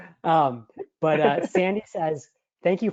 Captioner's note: laughing